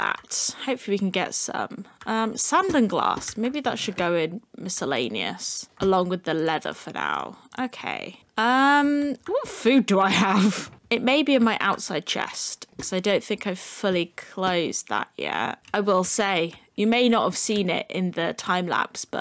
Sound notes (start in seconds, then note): 10.1 giggle